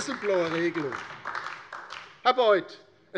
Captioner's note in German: Beifall DIE LINKE und vereinzelt SPD